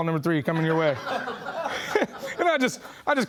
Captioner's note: laughing